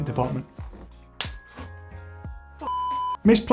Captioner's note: snap